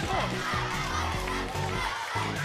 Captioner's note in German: Anfeuerungsrufe